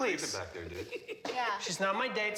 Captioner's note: Dobbs laughs